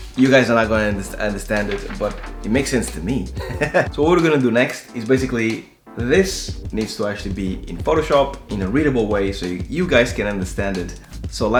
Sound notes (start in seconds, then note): 2.5 laughs